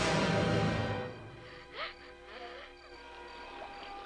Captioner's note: Leonardo sobbing